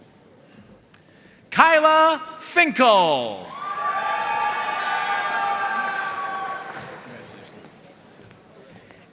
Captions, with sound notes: Kyla Finkel. (audience cheering and applauding)